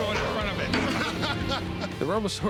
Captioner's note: laughter